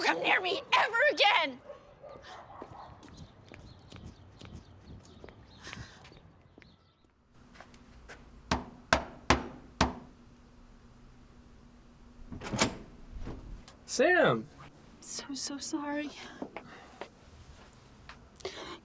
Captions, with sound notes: - Don't come near me ever again! (birds chirping) - Sam? - I'm so so sorry.